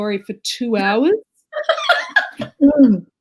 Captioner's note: laughs